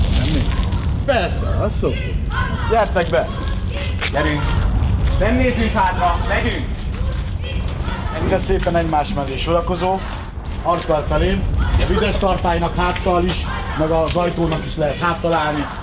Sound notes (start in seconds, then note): 7.2 Chanting in the background: “Russians, go home!”